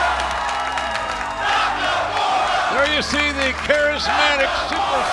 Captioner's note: fans chanting